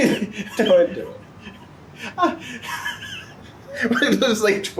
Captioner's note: laughs